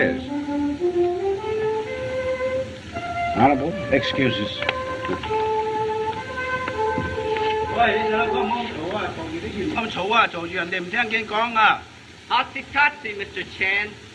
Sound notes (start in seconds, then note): 7.6 speaking Chinese